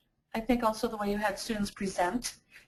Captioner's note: voiceover